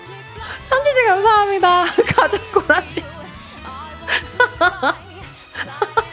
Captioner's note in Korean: 웃음